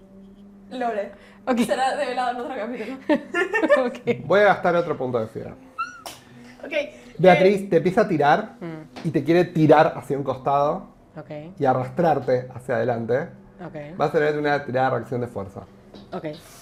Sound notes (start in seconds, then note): 5.6 squeals